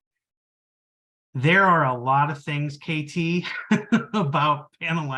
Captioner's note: laughing